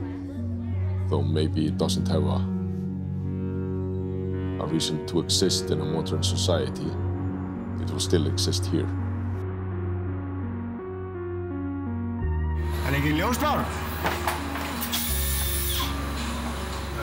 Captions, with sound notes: Though maybe it doesn't have a reason to exist in a modern society, it will still exist here. (gentle music) (person speaks in foreign language) (screw driver whirring)